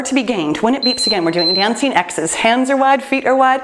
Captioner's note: timer beeps